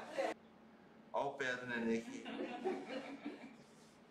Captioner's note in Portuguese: risos; risos